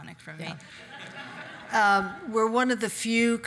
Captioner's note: audience laugh